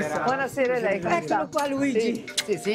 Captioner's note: speaks in Italian